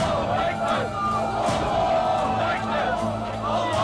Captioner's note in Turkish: Hep bir ağızdan